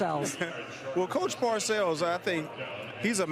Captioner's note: laughs